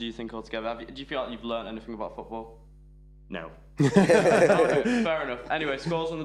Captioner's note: all laughing